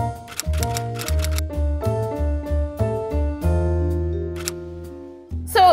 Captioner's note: upbeat piano music; keys typing